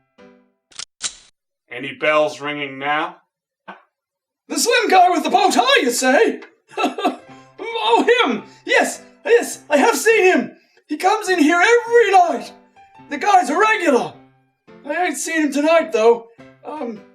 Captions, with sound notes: [Gun cocks] Any bells ringing now? The slim color with the bow tie you say? [Chuckles uncomfortably] Oh, him! Yes, yes I have seen him! He comes in here every night. The guy's a regular! I ain't seen him tonight, though... Um...